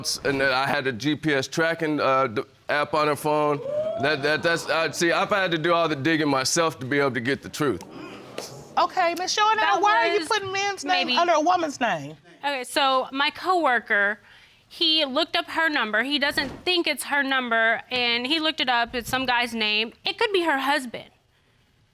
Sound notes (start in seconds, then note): 3.4 audience exclaiming